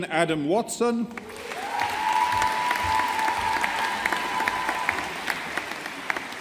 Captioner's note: audience applauding